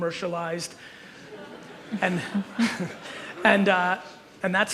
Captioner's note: audience chuckles